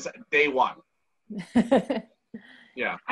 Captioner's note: laughing